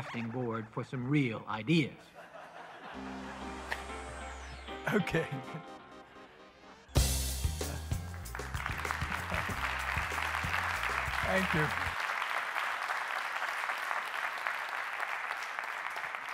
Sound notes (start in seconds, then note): 3.6 laughter; 10.1 applause